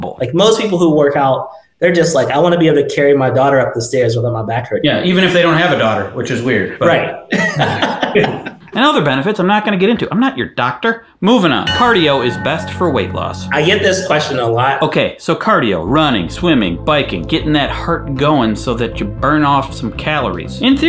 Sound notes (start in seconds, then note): 7.2 laughs; 11.6 chime sounding